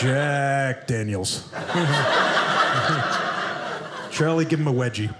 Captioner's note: audience laughing